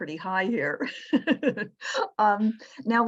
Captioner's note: laughing